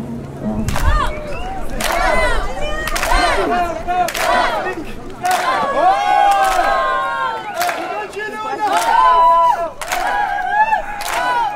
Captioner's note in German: Beifall/Beat